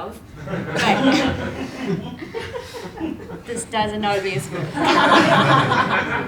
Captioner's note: laugh